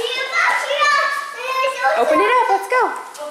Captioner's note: kids chattering